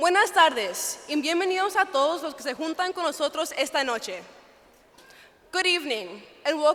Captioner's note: speaking Spanish